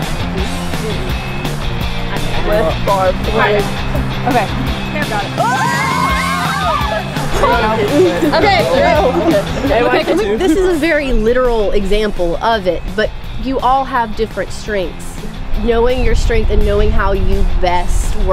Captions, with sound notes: (screaming) - This is a very literal example of it, but you all have different strengths. Knowing your strength and knowing how you best